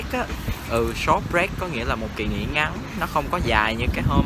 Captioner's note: Vietnamese